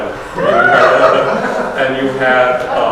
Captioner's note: audience laughs